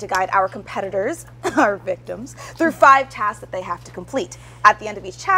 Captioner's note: cough